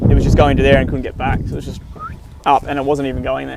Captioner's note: whistles